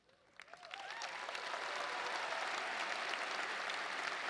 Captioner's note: audience applauding